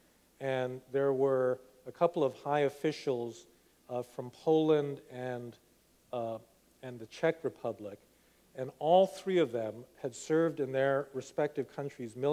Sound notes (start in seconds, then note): none